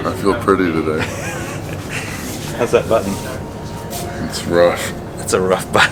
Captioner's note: laughs